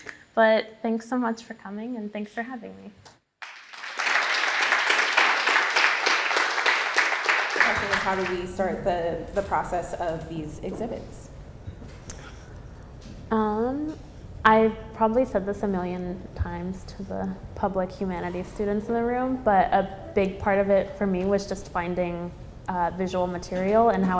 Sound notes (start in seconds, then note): 3.4 applause